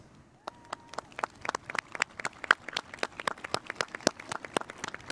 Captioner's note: spectators applauding